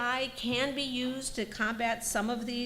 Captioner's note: none